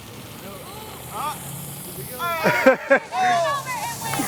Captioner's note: student laughter